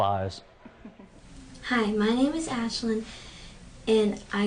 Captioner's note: laughter